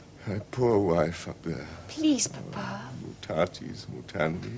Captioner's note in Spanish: Habla en Latín